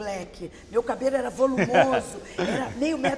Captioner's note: laugh